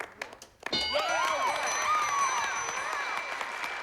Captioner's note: applause